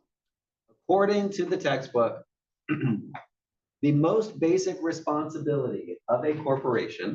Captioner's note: cough